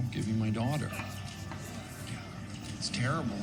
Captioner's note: crowd murmuring